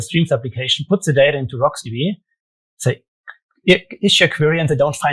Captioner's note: clicks tongue